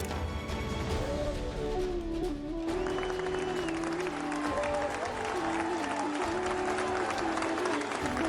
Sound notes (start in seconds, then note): 2.7 audience cheering, applauding